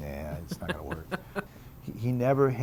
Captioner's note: laughs